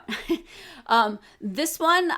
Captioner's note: chuckles